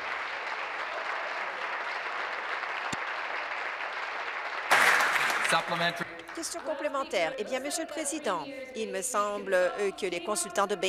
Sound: applause

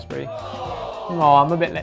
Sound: recording of crowd sighing

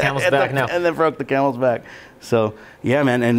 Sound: laughing

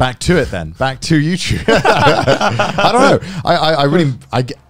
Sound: laughing

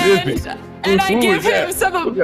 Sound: wolf mumbling

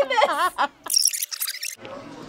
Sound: React laughs; laughs; tape rewinds

